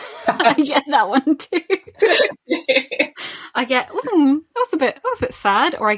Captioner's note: laughs